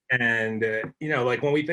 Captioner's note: laughs